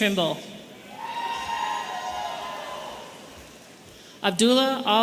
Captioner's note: audience cheering